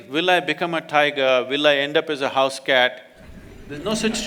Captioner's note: laughter